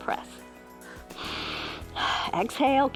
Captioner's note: inhales and exhales